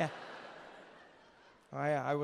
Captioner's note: crowd laughing